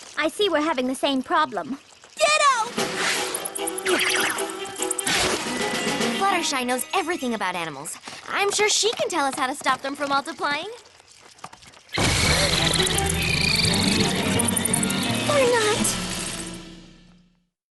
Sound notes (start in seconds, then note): 5.0 whip!; 11.9 chortling